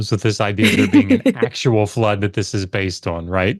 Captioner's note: laughs